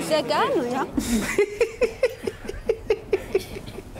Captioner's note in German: lacht